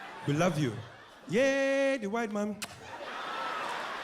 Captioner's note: kisses